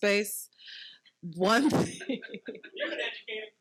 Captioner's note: laughing